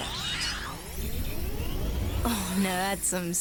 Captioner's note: power whirs